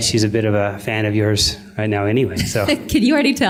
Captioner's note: laughter